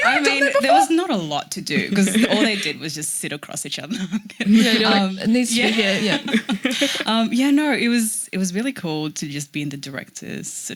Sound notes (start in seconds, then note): 4.3 laughing